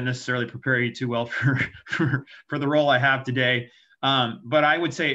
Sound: laughs

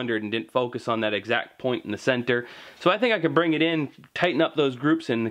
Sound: none

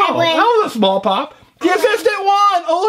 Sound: voiceover

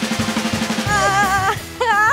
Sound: groaning

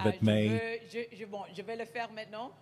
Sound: speaking French

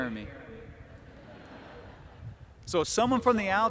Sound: laughter

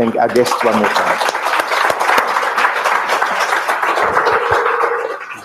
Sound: audience applauding

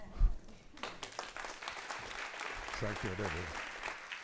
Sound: audience applauds

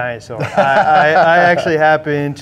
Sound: laughs

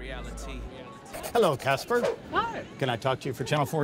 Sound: eraser scratching

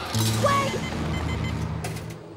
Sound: beeping

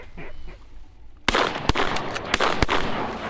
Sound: gunshots

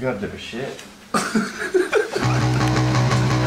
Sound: laughs

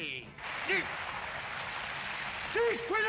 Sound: water gushing

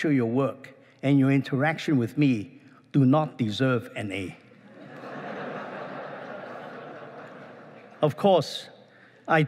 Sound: laughing

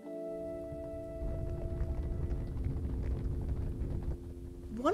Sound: hooves beating

